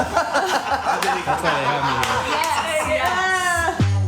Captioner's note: laughing